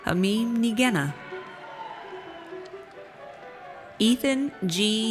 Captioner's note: audience cheers